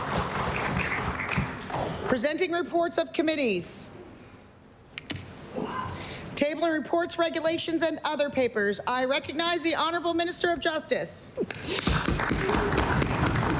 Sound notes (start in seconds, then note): 0.0 some Applause